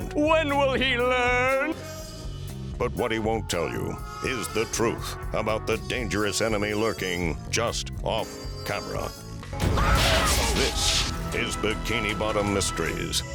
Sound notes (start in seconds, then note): 9.7 screaming